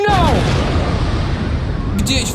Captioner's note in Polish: boom!